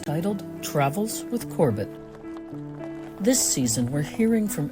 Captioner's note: AMBI: car on gravel